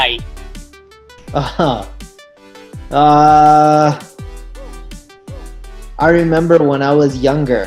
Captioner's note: laughs